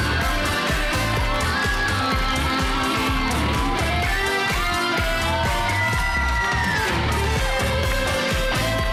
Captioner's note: crowd cheering